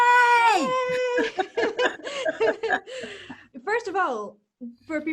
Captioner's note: ladies laughing